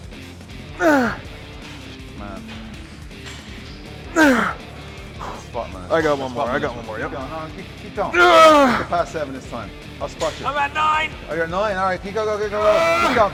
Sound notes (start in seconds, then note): 0.8 Ethan grunts; 8.0 Ethan grunting